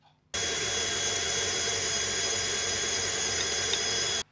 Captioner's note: machine whirrin